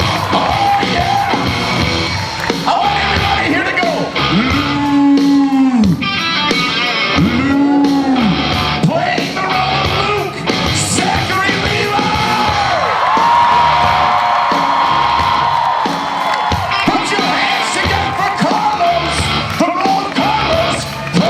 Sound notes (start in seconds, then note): 6.2 audience vocalizes; 8.1 audience repeats; 12.9 audience cheers